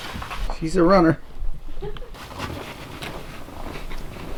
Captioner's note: woman laughs